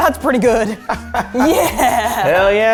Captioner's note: laughs